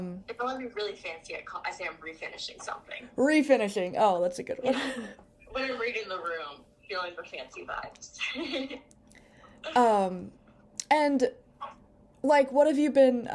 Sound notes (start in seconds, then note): 8.3 laughs